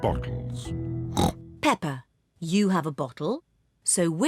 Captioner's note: snorts